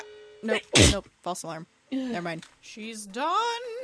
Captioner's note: extremely adorable sneeze